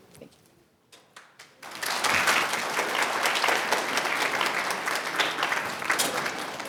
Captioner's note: attendees applauding